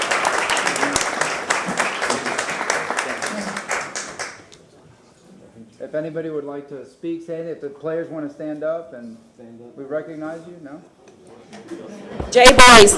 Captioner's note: applause